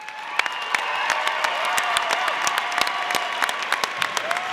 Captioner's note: audience applauding